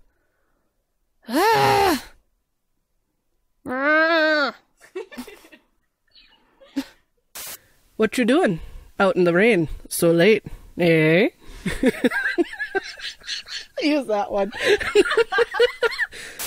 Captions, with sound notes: UGH! Mrruhh... [ Giggling ] Hnf Whatcha doing? Out in the rain. So late. Ehh? [ Laughing ] Use that one! [ Laughter ]